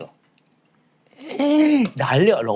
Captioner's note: gasping